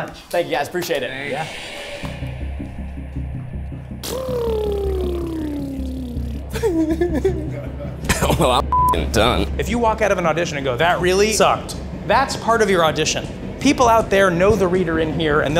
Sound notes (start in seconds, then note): 2.1 intense music; 4.0 blowing raspberries; 6.1 nervous laughter